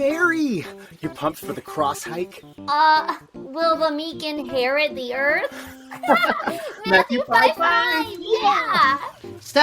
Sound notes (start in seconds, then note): 5.5 both laughing